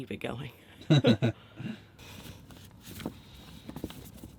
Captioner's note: both laughing